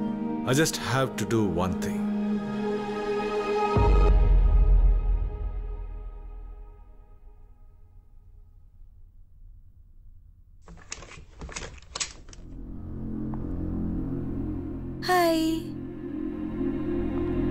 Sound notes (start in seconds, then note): 10.6 door opens